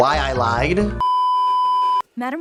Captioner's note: beeeeeeeeeeeep